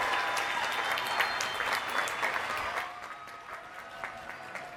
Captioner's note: cheers and applause